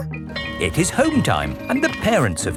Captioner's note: bell tolling